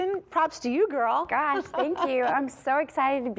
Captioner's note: laughter